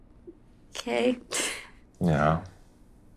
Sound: laughs

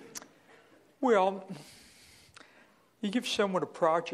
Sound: voiceover

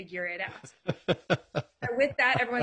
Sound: laughing

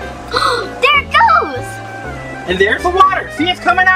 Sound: gasp

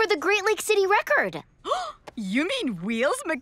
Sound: gasping

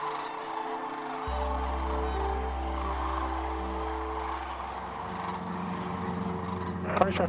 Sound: crane song; radio transmission

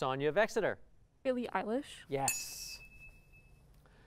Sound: ding

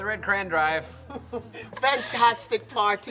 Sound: Charly chuckles

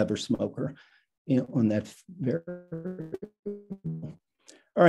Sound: static

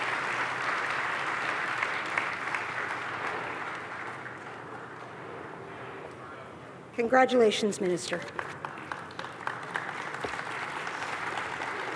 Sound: applause

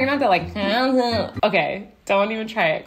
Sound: whines

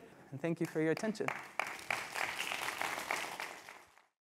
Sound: applause

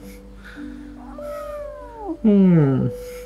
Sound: mewww

